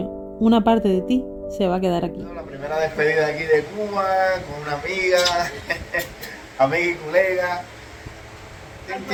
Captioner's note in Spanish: risas